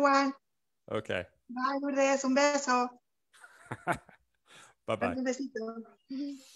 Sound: speaking Spanish; laughs; laughter

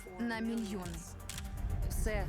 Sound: camera clicks

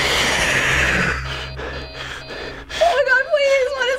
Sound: in game: growl; in game: frantic panting, alarms buzzing

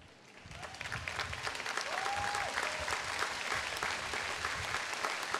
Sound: audience applauding

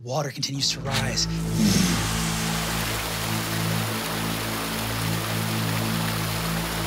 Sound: ominous music; water rushing

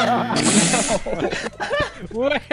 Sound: incorrect buzzer; laughter; incorrect buzzer

